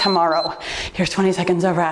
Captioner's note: timer beeps